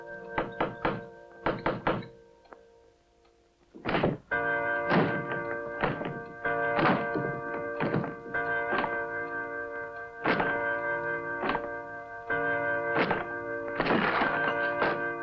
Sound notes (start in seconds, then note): 1.5 knocking on door continues; 3.8 forcing lock